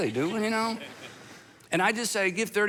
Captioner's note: audience laughs